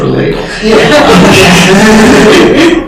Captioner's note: laughter